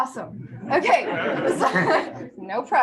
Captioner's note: laughter